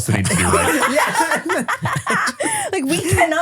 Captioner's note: everybody laughs